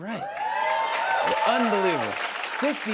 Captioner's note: cheers and applause